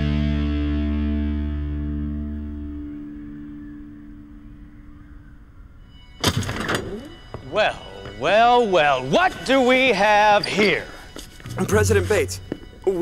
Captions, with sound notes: (doors clatter open) - Well, well, well what do we have here? (playful music) - President Bates.